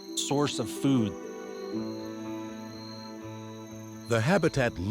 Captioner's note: insects chirping